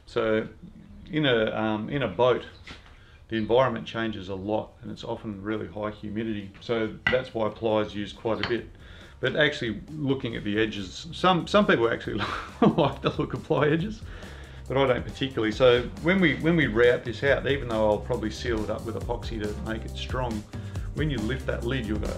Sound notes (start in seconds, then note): 12.0 chuckles